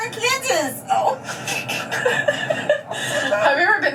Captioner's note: laughs